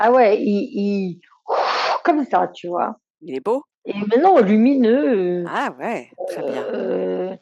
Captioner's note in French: grognement